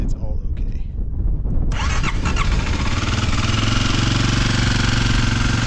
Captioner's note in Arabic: أزيز المحرك